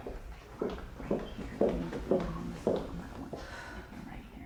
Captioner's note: footsteps tapping; speaks faintly; Mrs. Macaw sighs